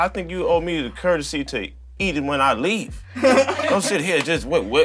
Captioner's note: laughter